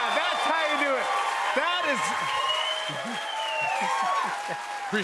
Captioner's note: cheers and applause